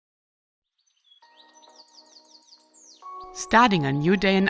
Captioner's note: birds chirping; light music